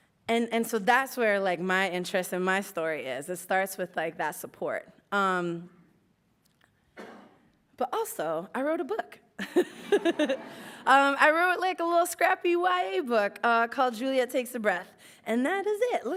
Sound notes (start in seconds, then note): 8.4 laughs